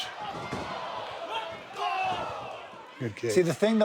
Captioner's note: audience cheers